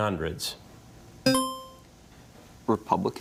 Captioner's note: buzzer dinging